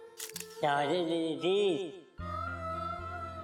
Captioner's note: Golu talking gibberish